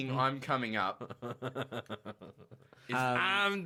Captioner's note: still laughing